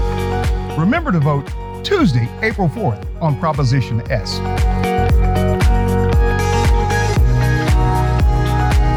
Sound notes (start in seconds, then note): 0.8 voiceover; 4.7 upbeat music